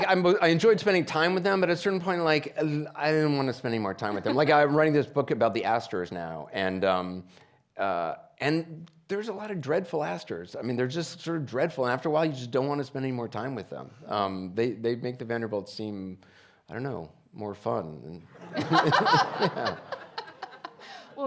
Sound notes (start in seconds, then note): 18.4 audience laughing; 18.6 laughing